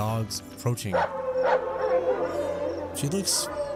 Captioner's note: barking and howling